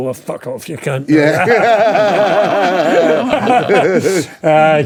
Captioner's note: laughing